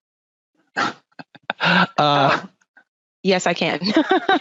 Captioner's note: laughing